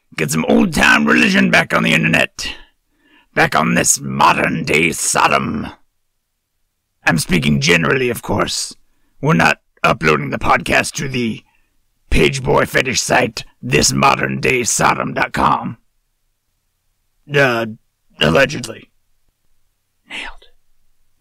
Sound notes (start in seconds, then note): 18.4 whispered